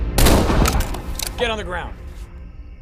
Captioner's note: gun fires